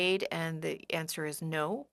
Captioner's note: speaking French